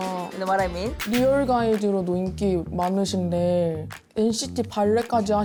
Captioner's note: ‘Bal’ sound effect enters